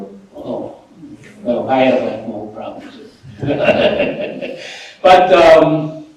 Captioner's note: laughter